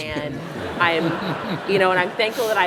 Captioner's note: laughter